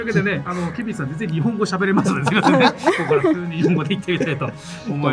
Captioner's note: laughs